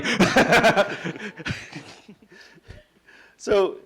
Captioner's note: laughing